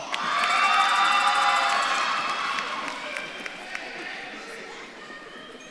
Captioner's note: audience claps and cheers